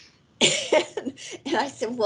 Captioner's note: chuckles lightly